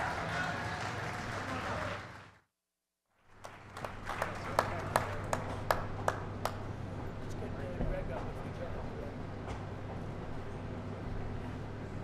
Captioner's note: applause